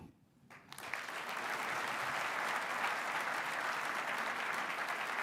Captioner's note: applause